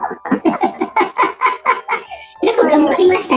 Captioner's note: laughs